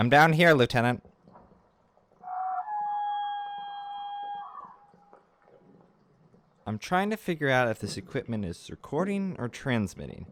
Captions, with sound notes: I'm down here, lieutenant. [Whale-like animal sound] I'm trying to figure out if this equipment is recording or transmitting.